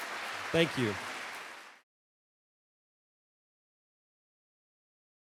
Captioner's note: laughing; audience applauding